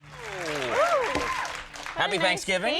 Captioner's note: applause